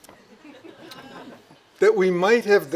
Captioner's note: audience laughing